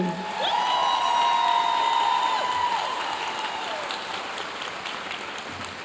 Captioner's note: audience cheering and applauding